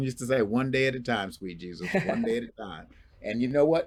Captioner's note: chuckles